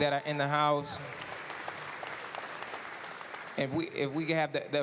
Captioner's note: applause